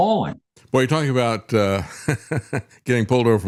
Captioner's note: laughs